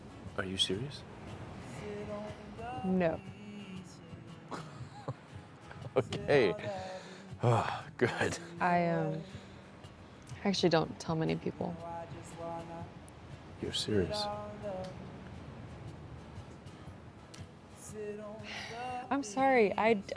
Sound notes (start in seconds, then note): 4.5 Cole laughs; 6.6 sighs; 18.4 Fern sighs